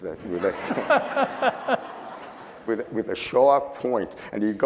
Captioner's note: laughing